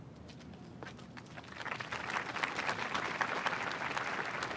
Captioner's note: applause